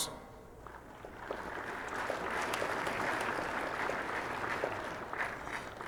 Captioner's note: audience applauding